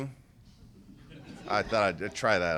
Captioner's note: laughter